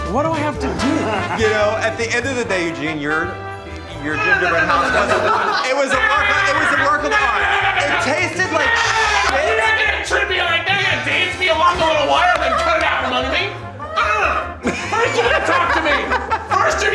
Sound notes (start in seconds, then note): 5.0 yelling